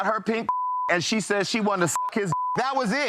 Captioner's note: beep